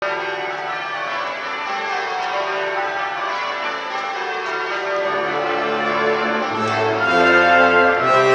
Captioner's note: church bells